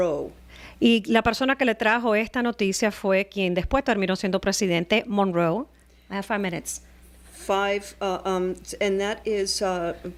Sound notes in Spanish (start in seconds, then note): 5.1 Hablando ingl\s